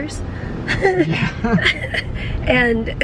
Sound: both chuckling

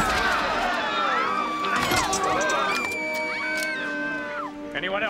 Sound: yelling and screaming

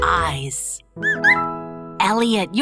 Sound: chirps

